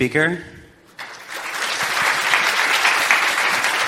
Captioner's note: audience applauding